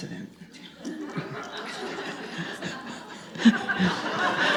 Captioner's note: audience laughs